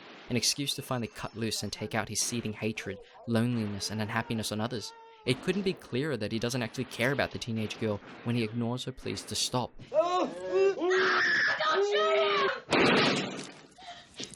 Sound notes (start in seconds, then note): 9.9 screams; 12.6 gun shot